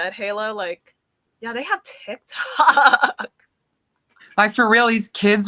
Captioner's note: laughing